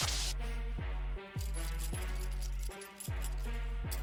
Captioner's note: handcuffs clank